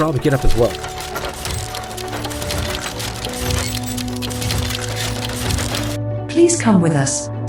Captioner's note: steampunk walking, tank rolling, flying hum